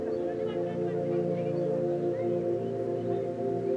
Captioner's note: children shouting